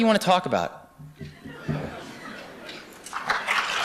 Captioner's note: laughter; applause